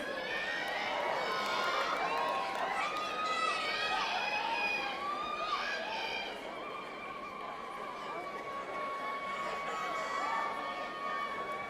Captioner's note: cheering